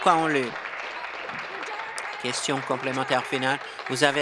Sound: applause

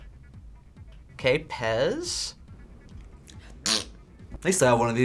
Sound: makes fart noise

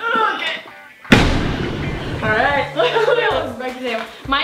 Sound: explosion

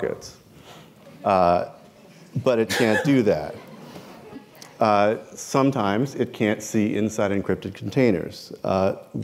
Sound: chuckle

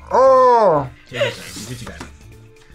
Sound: groans

